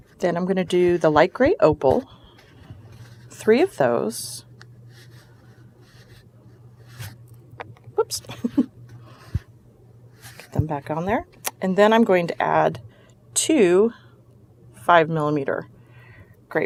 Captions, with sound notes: then I'm gonna do the light grey opal, three of those. Whoops. (chuckle) Get them back on there. And then I'm going to add two five millimeter grey pearls.